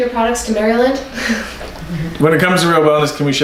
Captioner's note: chuckling